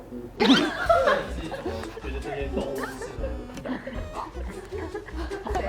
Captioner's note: bursts into laughter